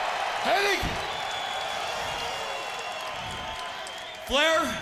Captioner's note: crowd cheering